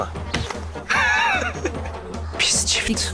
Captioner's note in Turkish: Gülme sesi